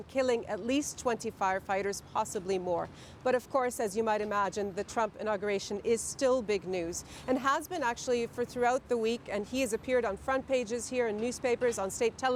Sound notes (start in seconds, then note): none